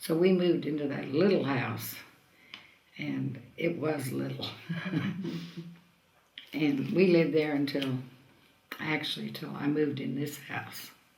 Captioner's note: laughs